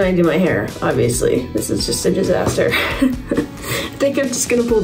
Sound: chuckles

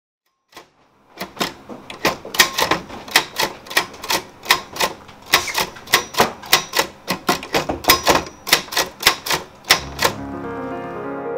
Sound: click and clack of typewriter keys; soft piano music

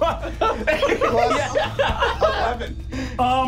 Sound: laughing

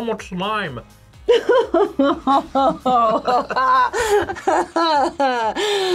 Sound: laughs; gasps

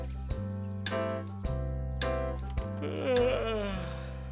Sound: snoring and whinnying

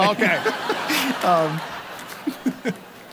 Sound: laughing

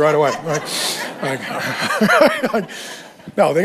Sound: congregation laughing

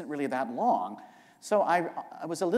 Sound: none

